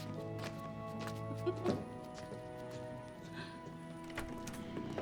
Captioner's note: laughs